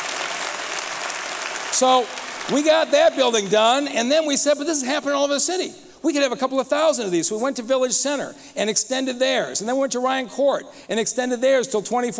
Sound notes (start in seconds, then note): 3.7 applause